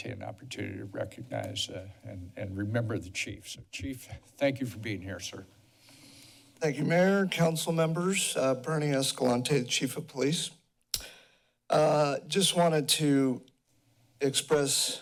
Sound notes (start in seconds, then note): 10.9 clicks tongue